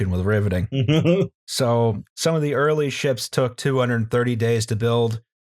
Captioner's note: laughter